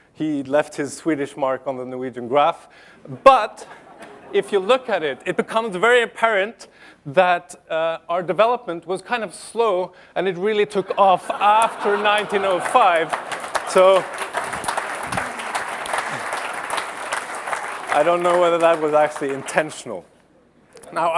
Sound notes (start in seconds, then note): 15.7 applause